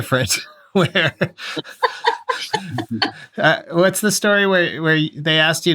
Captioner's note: laughter